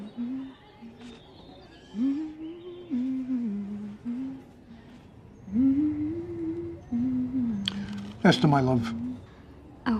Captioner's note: humming